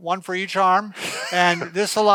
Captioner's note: snickers